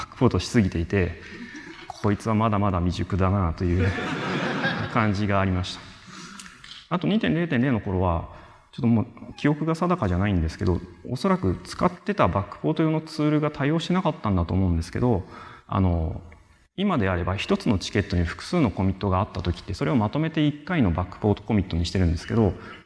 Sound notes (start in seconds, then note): 3.7 laughter